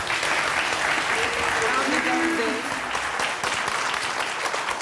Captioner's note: audience clapping